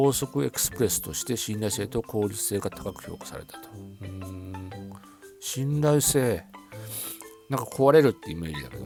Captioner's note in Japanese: 鼻息